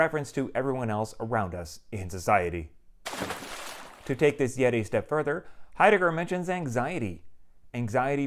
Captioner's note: water splash